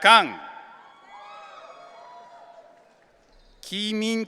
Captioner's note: audience cheering